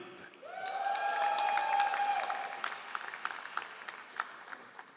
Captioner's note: all applauding